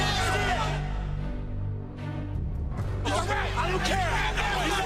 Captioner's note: crowd chatter